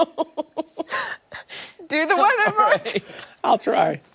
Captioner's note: laughter